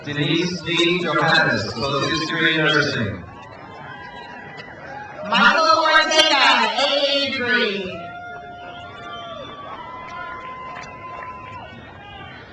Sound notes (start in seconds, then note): 4.1 crowd cheers; 7.9 crowd cheers